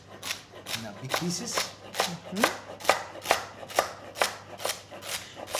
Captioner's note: chopping